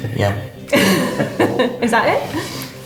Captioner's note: laughing